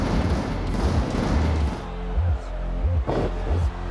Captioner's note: fireworks explodes